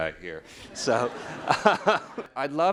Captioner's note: audience laughing